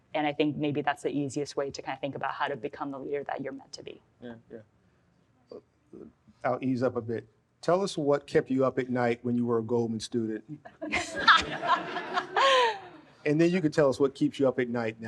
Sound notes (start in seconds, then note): 10.9 laughs; 11.1 audience laughs